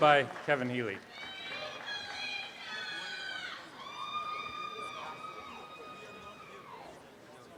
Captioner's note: applause and cheering